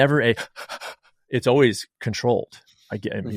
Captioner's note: breathes erratically